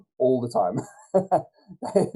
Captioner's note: laughs